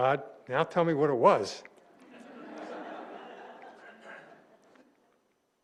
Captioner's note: laughter